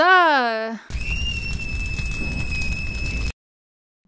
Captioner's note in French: Cris aigus